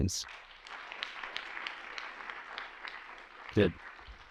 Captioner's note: applause